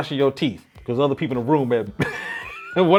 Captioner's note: laughs